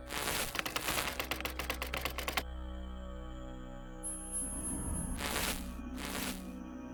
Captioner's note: static crackling; keys clicking; static crackling